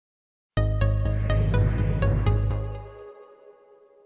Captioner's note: digital chimes